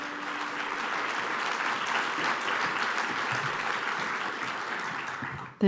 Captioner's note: applause